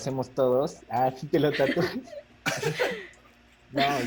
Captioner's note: laughs